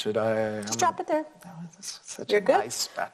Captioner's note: whispering